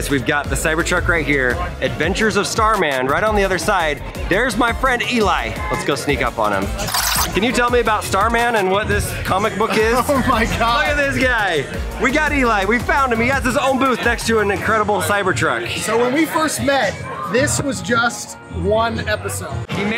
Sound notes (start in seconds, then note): 6.8 tape whirring; 9.6 laughs